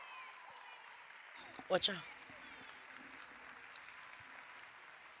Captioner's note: cheers and applause